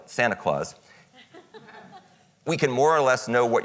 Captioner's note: audience chuckles